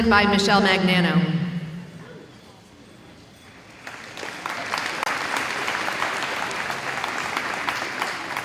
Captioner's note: audience applauding